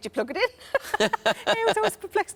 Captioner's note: laughing